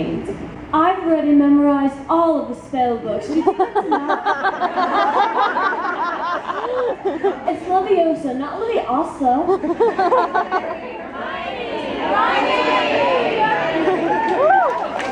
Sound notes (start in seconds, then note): 5.8 audience laughs; 10.9 audience shouts: HERMIONE!; 13.8 audience claps